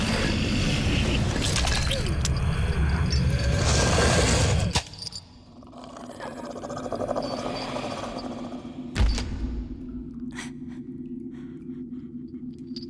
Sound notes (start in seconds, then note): 5.7 woman growling